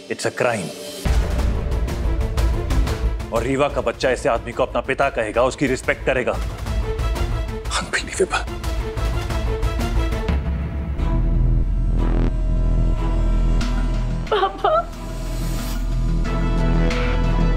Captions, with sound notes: It's a crime. Reeva's baby will call such a man father and respect him! Unbelievable! [dramatic music playing] Dad! [sobs]